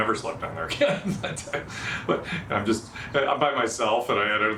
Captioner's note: laughing